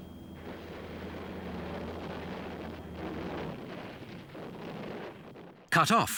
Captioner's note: engines roaring; explosions booming